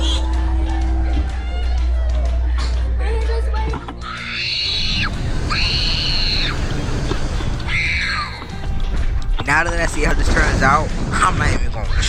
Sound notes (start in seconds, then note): 4.0 screaming